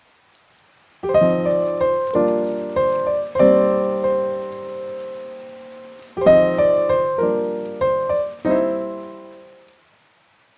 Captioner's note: gentle Background Rain